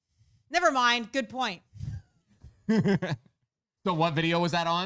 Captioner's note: both laughing